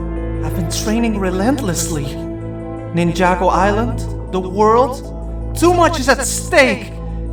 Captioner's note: none